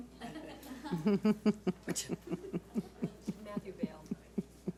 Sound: audience laughs

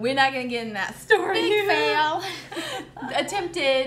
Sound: laughs

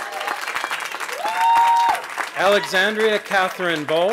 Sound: cheering

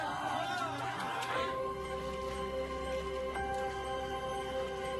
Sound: crowd chattering

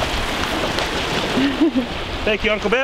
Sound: laughing

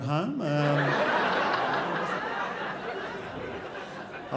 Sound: crowd laughs

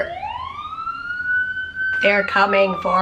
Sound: siren in background

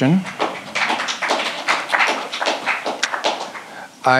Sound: audience claps

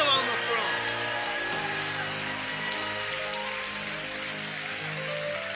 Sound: congregation cheering and clapping

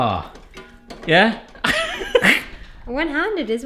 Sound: wheezing laugh

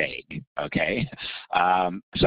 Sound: laughing

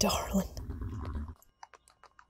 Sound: affectionate whinny

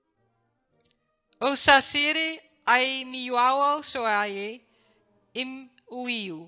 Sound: speaking in foreign language

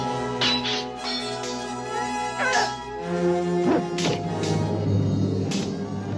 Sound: clinking; tense orchestral music; clinking; grunting; clinking

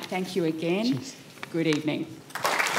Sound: applause

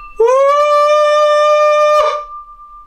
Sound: shouting sound

